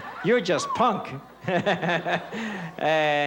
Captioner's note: laughter